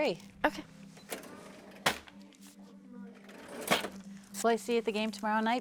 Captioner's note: cash register clinks